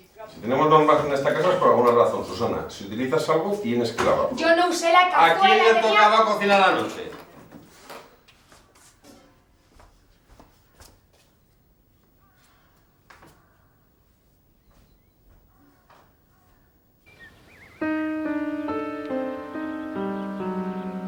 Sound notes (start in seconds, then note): 12.2 crow cawing; 16.9 birds chirping; 17.7 tense music